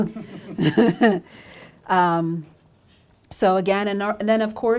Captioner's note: she laughs